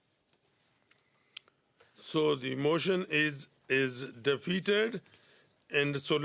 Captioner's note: speaking French